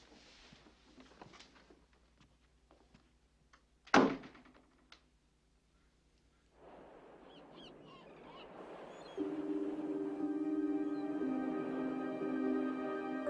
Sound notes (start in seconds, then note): 4.0 door bangs; 9.2 dramatic music